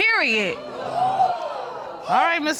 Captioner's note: audience exclaims